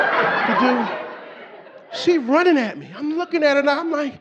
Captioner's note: audience laughing